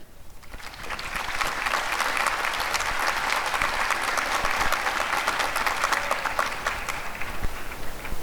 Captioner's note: applause